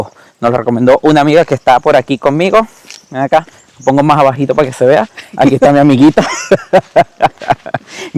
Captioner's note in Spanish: risas